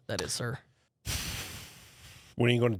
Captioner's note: sighs